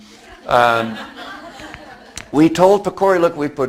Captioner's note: audience laughs